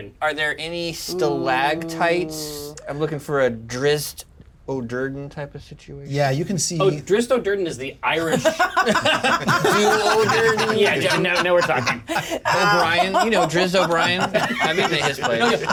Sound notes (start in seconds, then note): 8.2 laugh